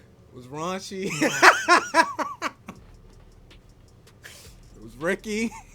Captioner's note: laughs